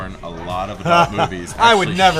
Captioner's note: laughs